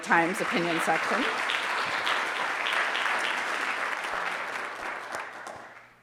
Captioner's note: audience applauding